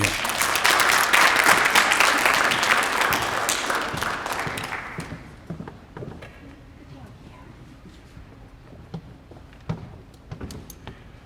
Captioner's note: applause